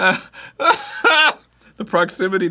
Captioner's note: cries